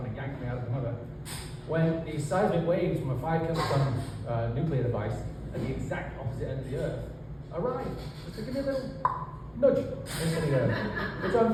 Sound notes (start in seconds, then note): 9.0 pop